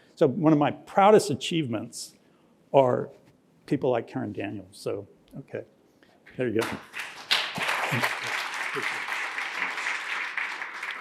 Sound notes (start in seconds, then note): 6.6 applause